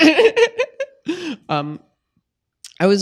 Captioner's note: laughing